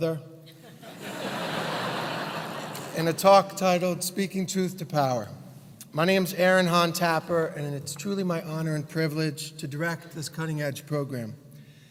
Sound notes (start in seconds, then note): 0.6 laugh